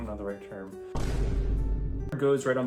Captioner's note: boom